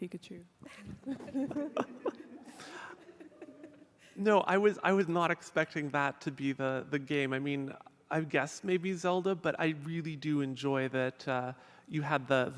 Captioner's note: laughter